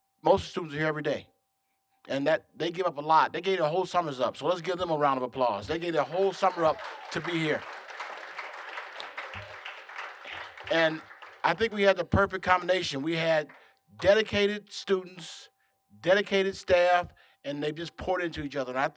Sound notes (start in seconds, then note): 7.8 applause